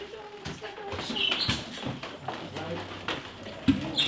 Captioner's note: birds chirping in background